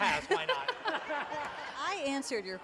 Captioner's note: laughter